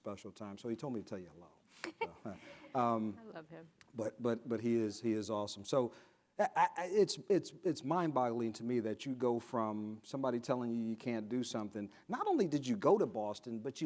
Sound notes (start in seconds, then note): 1.8 giggles